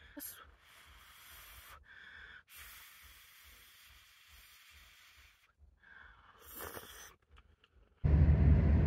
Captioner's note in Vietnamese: Hút và xì xụp